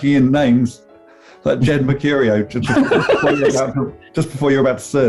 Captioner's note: laughing